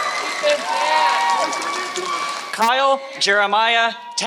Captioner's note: applause